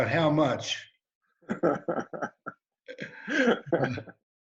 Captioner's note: laughs